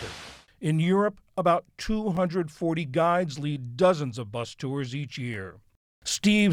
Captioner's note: voice-over